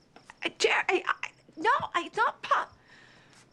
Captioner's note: stammering